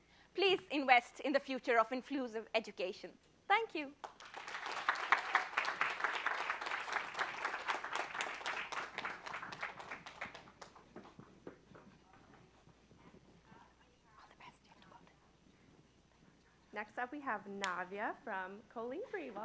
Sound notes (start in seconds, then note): 4.0 applause